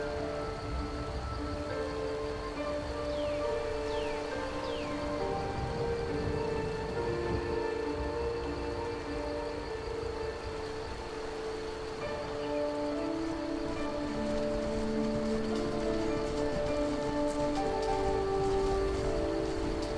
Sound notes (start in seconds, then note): 3.4 river flows